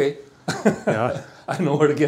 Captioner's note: laughing